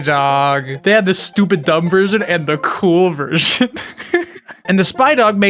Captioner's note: laughs